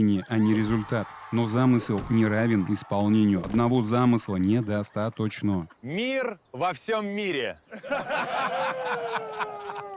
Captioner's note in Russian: смех